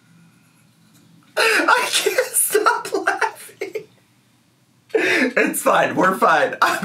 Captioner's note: laughing